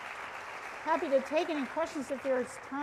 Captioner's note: applause